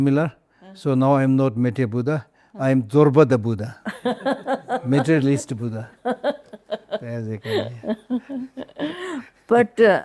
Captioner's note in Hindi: हंसी